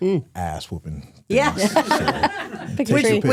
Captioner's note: hosts laughing